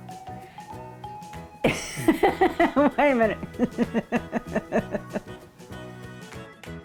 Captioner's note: laughing